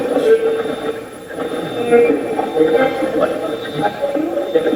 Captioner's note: Steve's Box chatters